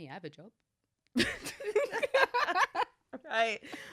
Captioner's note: laughs